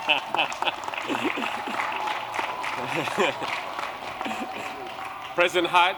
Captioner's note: applause